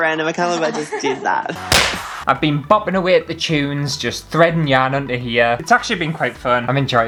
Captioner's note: smack!